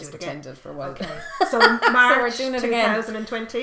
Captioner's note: laughing